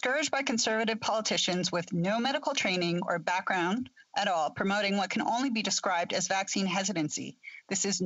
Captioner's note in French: voix de l'interprète